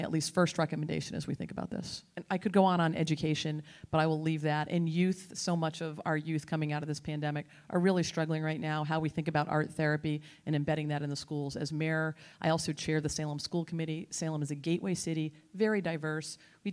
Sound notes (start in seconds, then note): none